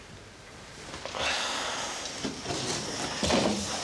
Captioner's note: sighs